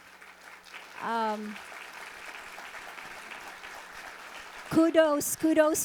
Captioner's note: audience applauding